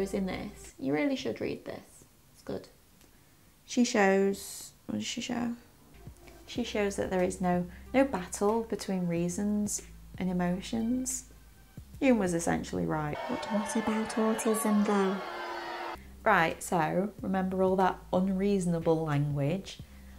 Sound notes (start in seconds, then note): 13.1 booing crowd sound effect